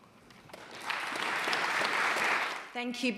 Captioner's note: audience applauding